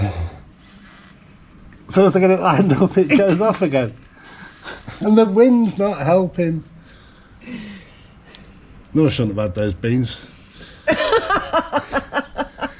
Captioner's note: laughter